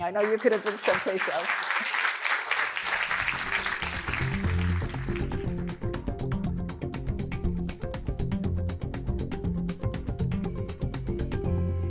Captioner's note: applause